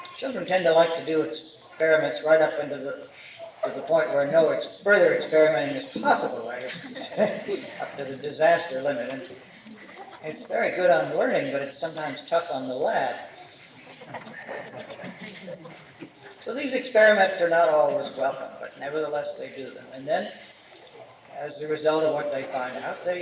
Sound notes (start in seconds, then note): 13.7 laughter